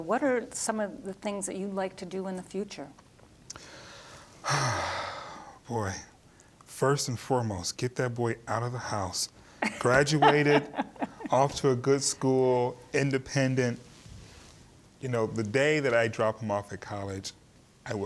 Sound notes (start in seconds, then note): 4.4 sighing; 9.6 laughing